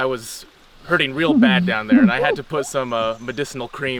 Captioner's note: continues giggling